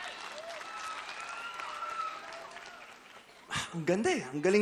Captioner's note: crowd cheering, applauding